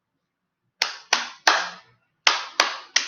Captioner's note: clap clap clap